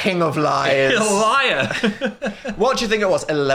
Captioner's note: laughs